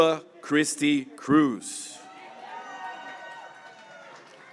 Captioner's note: graduates cheering